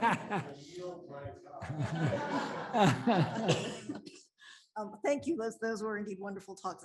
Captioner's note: laughter